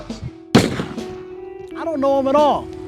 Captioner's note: gun fires